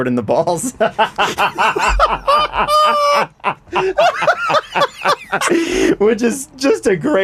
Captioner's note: laughter